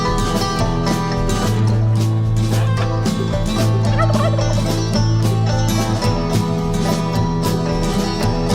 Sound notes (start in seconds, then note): 2.0 chickens pawking; 2.6 turkey gobbling